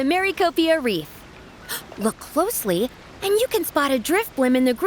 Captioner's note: gasp